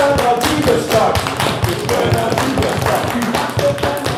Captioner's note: clapping